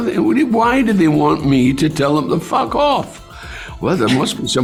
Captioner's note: stammering